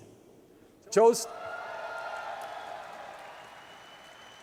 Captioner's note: crowd cheering